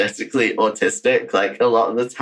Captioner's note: laughs